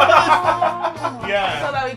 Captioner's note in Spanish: risas